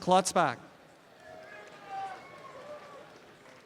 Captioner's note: applause and cheering